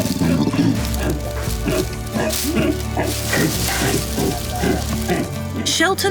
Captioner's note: orangutans grunting; uplifting music